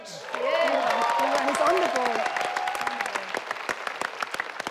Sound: people applauding

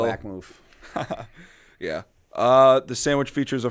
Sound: chuckle

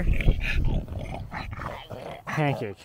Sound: dog snarling

